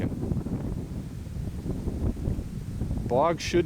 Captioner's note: wind rustling